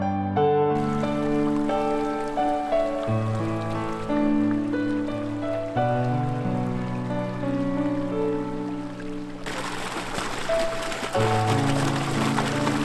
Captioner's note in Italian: Applauso